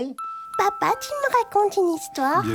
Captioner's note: voiceover